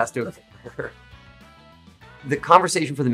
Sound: both laughing

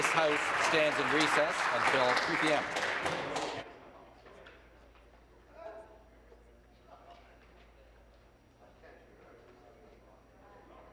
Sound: applause

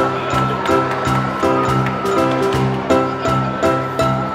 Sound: man applauds

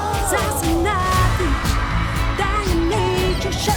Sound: crowd cheering

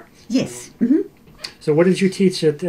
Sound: laughs

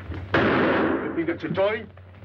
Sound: gun fires

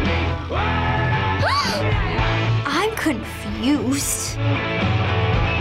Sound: gasps

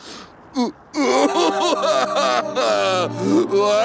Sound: crying

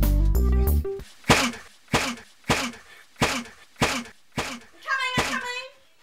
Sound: head Slamming

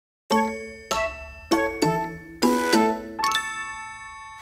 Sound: bright chiming

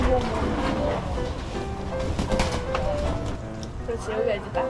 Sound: flapping

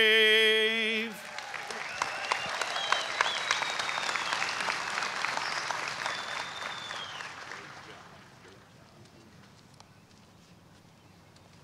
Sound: applause

